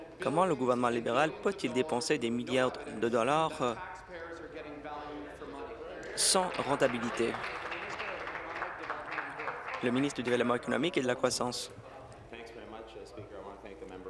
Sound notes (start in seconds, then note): 9.0 applause